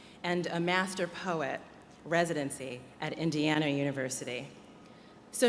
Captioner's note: none